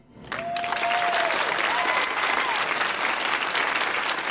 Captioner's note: audience applauding